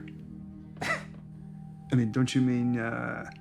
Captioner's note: Kent scoffing